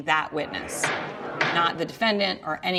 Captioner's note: gavel bangs